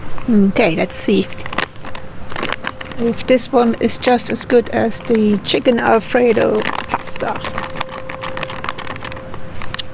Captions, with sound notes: Okay, let's see ... if this one is just as good as the Chicken Alfredo Pasta. [Sound of crinkling bag]